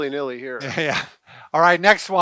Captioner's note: laughs